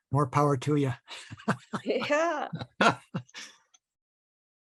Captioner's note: laughter